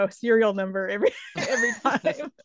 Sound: both laughing

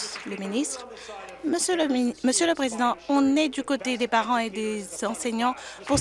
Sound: applause

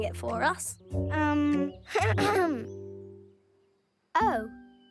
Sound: clears throat

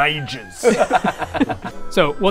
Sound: self-sabotaging giggles

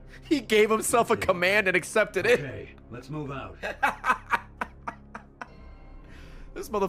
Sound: laughs; laughs

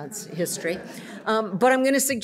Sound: audience laughs

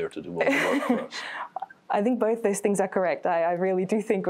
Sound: laughs

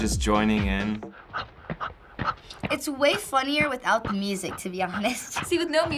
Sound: man panting; chuckles

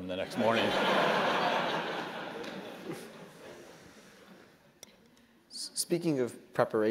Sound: laugh

